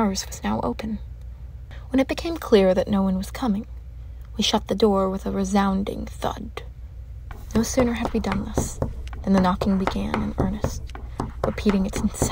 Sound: knocking resumes

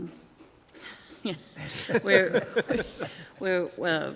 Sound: group laughs

